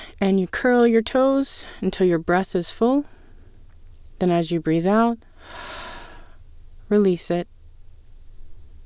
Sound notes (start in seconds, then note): 5.3 exhale